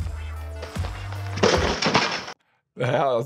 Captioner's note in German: Originalton: Ball trifft Korb. Musik endet